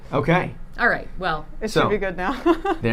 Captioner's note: laughing